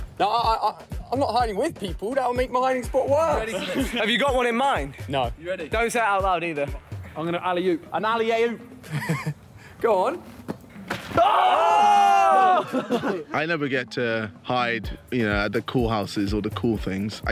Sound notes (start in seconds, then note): 8.8 chuckling; 11.1 screams and laughs